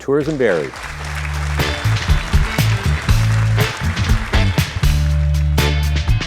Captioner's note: audience applauding; upbeat music